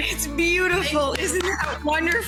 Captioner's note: clapping